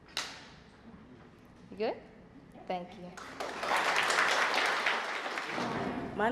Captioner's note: applause